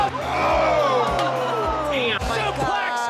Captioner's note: all exclaiming